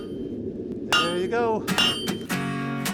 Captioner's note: metal banging